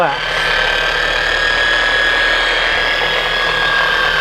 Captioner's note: polisher working